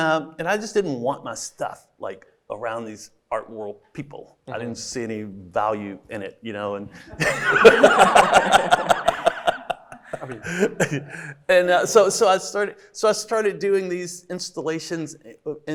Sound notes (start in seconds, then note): 6.9 everybody laughing